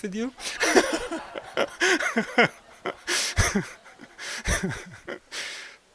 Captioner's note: laugh